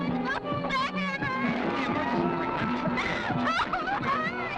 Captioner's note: crying